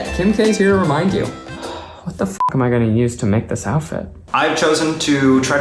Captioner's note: beeps